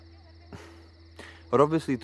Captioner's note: Sighs